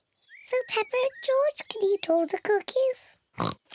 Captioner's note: in normal voice; oinking